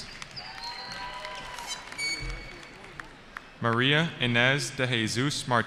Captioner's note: cheering